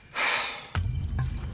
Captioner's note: sigh; exciting music